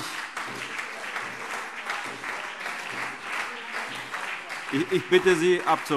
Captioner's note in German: Beifall CDU, BÜNDNIS 90/DIE GRÜNEN, SPD und DIE LINKE - Zuruf